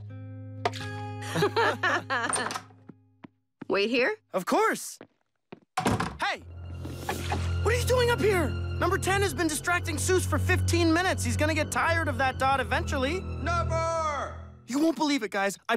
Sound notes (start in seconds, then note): 1.2 both laughing; 5.8 door closes